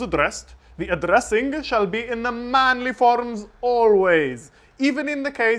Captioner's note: silly fake British accent